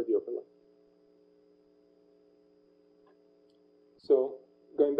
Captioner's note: pause